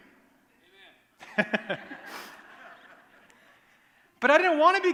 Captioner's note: laughter